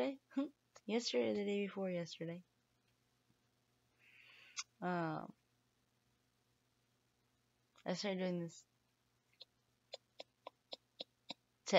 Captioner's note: click click click